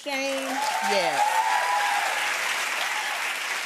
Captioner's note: cheers and applause